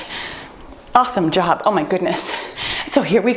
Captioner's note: timer beeps